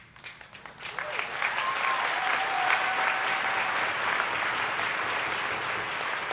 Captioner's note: audience applauding and cheering